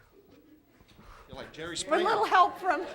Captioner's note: laughter